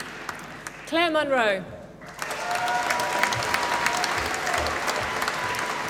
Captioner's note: applause